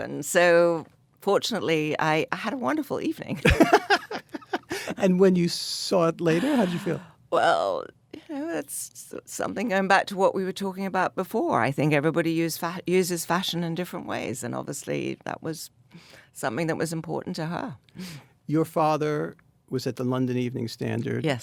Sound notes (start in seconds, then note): 3.4 Anna and David laugh